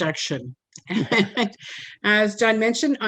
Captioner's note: giggles